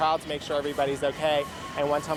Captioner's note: none